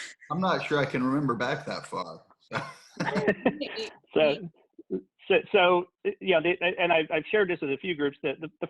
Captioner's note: laughs